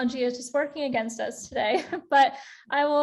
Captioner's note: chuckles